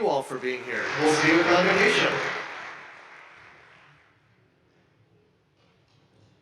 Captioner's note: audience applauding